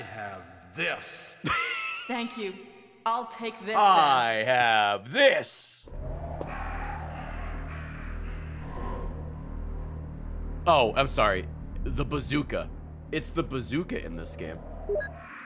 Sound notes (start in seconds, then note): 3.7 laughs